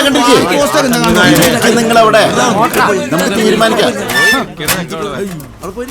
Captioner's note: indistinct chatters